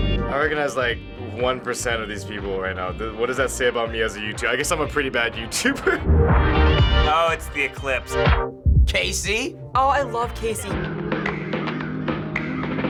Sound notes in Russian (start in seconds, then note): 5.5 посмеиваясь